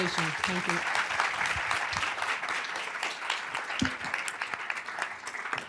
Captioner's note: applause